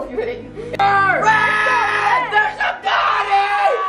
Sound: screaming

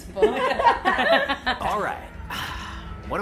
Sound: all laugh

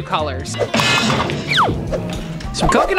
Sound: pan slamming

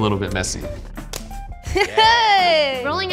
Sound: gloves snap; laughs

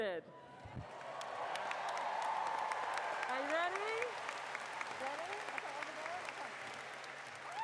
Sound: cheers and Applause

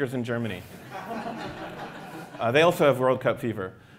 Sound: laughter

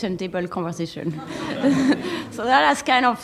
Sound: laughter

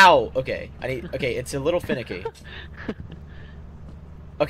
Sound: huhaha! hu hu

